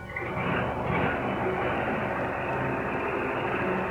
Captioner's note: engine rumbles